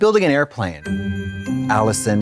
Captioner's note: festive chime